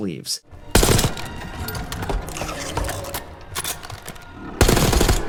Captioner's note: rapid gunshots firing